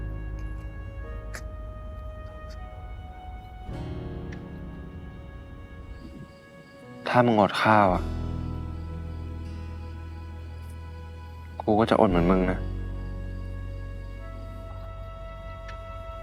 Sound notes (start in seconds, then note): 1.0 crying